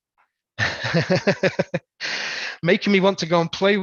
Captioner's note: laughs